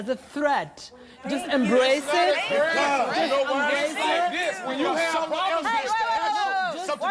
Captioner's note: angry chatter